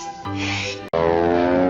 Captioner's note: breathes